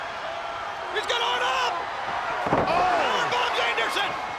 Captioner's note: crowd clamoring